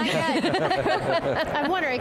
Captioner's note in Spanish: risas